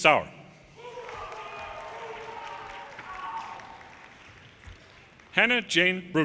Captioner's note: audience cheers and applause